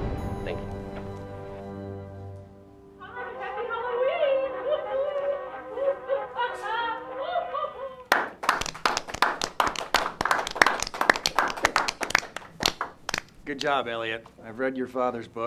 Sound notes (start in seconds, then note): 4.8 laughing; 8.0 clapping